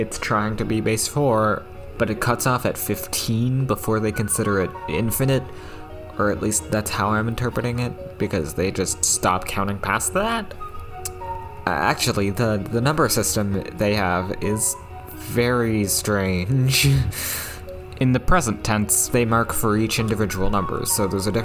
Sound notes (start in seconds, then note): 10.9 lipsmack